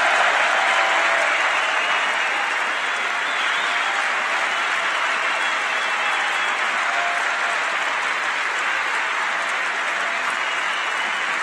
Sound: cheers and applause

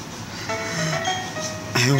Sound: dramatic inhale

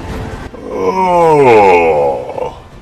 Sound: yawns

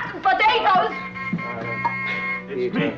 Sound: buzzer buzzing

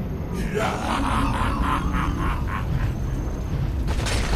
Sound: laughs

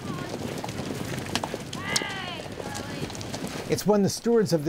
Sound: horses galloping

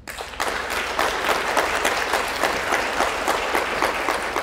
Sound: audience applauds

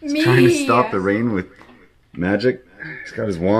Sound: disembodied Voice

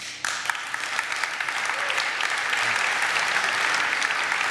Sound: audience applaud

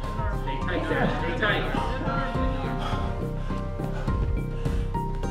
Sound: chattering

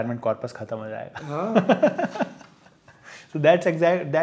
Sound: laughing

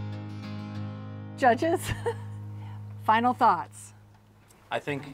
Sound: laughs

